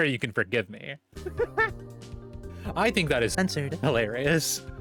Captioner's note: laughing at the absurdity